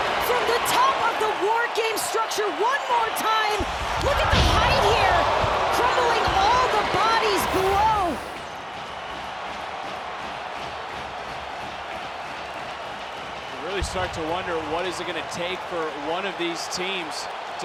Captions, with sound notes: from the top of the WarGame structure one more time. Look at the height here. Crumbling all the bodies below. (crowd cheers) You really start to wonder what is it gonna take for one of these teams